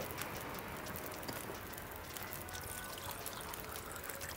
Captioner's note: water Pouring